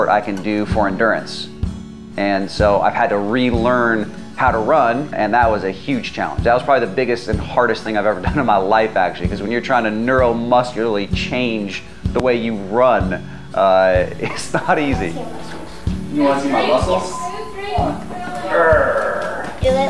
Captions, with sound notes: I can do for endurance. And so I've had to re-learn how to run and that was a huge challenge. That was probably the biggest and hardest thing I've ever done in my life, actually 'cause when you're trying to neuromuscularly change the way you run, it's not easy (chuckling). You wanna see my muscles. Grrrr.